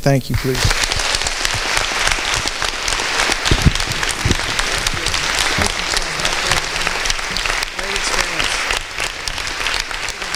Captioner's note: applause